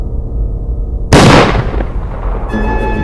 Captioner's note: gun fires